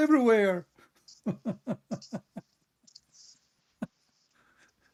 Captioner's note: Ketawa